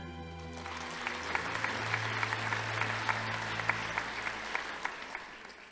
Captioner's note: audience applauding